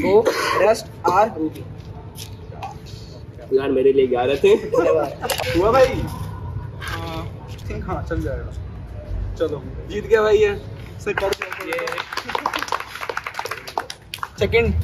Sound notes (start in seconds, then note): 11.1 clapping sounds